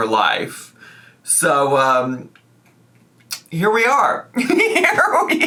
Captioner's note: laughs